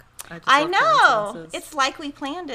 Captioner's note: speaks faintly